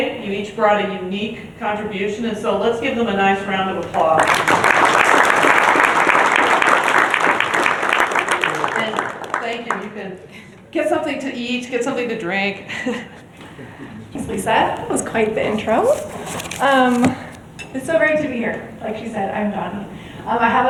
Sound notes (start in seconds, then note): 4.1 applause; 12.7 chuckles